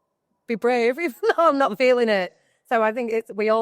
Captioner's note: laughs